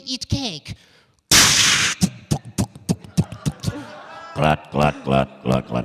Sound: making humorous noises

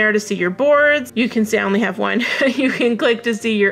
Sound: laughs

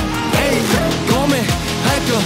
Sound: brrrr

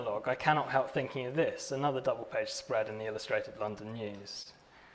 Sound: none

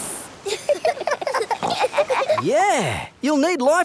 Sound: giggling

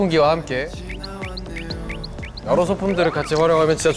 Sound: cool breeze

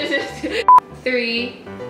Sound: beeps

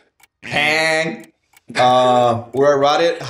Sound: imitates buzzer

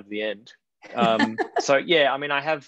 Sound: laughs

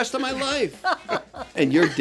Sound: laughing

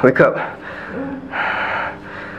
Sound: moaning

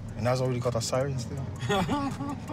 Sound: group member laughs

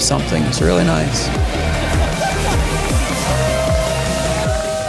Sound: cheering

